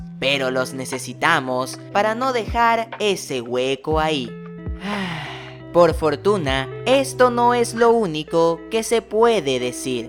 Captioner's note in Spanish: Suspiro